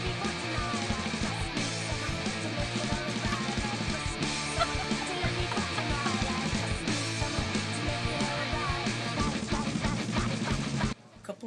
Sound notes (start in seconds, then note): 4.9 girls laughing